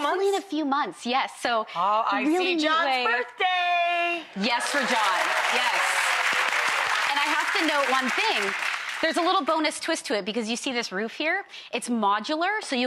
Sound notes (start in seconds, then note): 4.4 crowd clapping